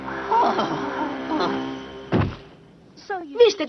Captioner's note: thud